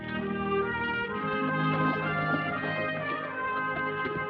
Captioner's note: horses trotting